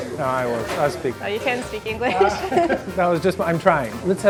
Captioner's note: laughter